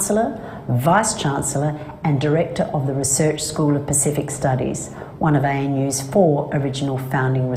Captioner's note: non-english speech